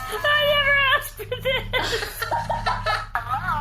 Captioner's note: sobbing